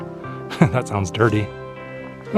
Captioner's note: laugh